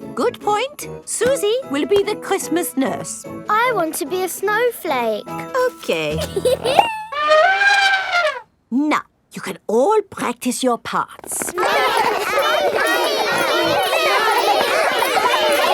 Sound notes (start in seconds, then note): 6.1 giggles; 7.1 trumpets; 11.4 all laughing and chattering